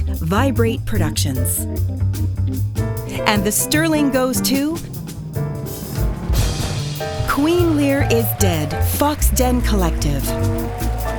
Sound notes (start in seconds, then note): 5.0 drumroll; 6.6 applause